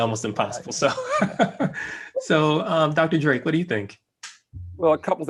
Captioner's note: laugh